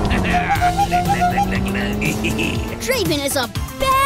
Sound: horn honking; engine revving

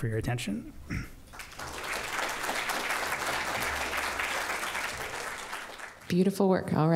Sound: applause

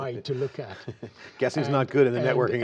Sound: laughter

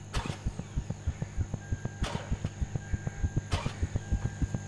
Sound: engine turning; car beeping

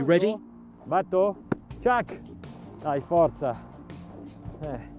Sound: muffled clap

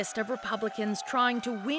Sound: applause

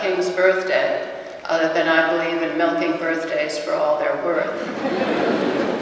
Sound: audience laughter

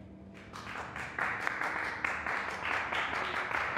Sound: clapping

